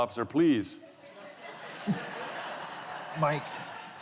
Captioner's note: laughter